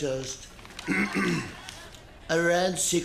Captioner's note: clears throat